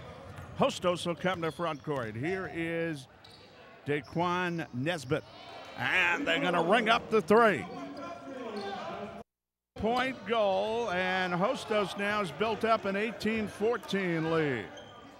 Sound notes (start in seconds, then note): 7.9 yelling; 8.4 shoes squeaking